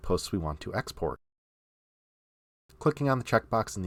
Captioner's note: silent